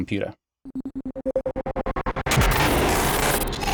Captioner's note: glitch sound